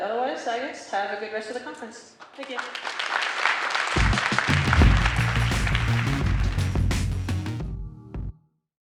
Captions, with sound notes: and otherwise I guess, have a great rest of the conference. Thank you. (audience applauding) (upbeat music)